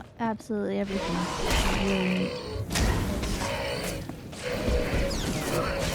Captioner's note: gunshots